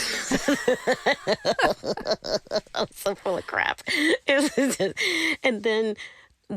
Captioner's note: laughter